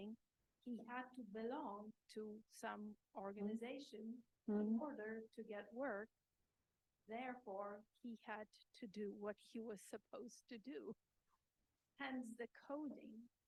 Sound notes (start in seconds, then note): none